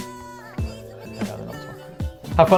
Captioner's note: mumbles